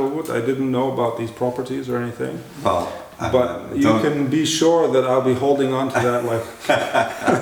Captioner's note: laughter